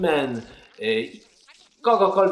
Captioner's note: stutters